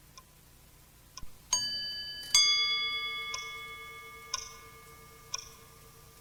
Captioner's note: clock ticking